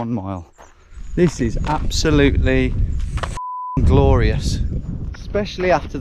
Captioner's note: beep